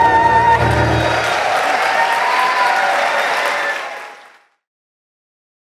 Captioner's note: audience cheering